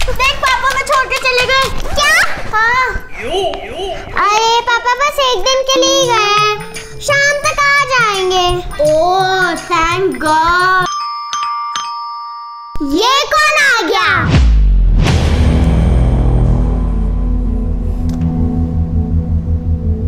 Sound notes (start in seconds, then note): 10.8 door Bell Ring